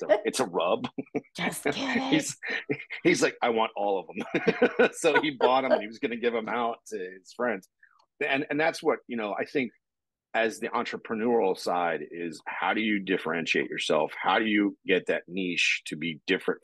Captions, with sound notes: "It's a rub." (chuckling) He's like, "I want all of them." (both laughing) So he bought 'em and he was gonna give them out to his friends. And that's what, you know, I think as the entrepreneurial side is, how do you differentiate yourself? How do you get that niche to be different